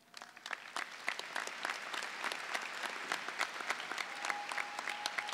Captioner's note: clapping